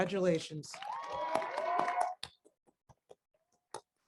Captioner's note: crowd cheers